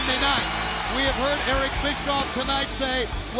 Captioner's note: bell ringing